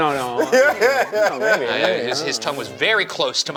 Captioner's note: laughing